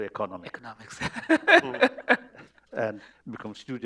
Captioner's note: laughter